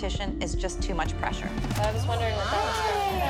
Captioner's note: chatter